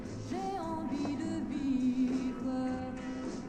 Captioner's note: none